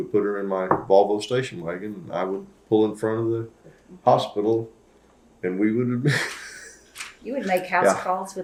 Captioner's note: laughs